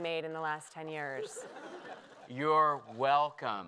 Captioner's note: laughter